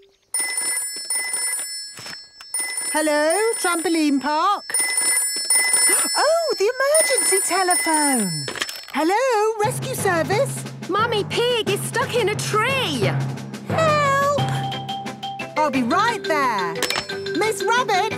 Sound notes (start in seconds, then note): 0.2 phone ringing; 5.1 phone ringing